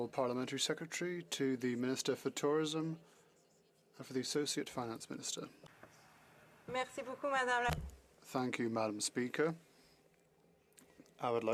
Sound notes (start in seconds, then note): 3.6 speaking French